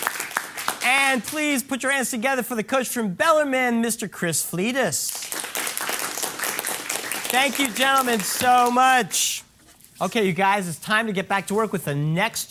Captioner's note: applause